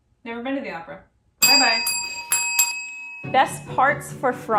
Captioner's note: bells dinging